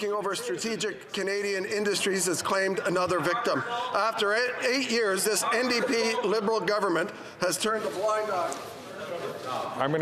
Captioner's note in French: voix de l'interprète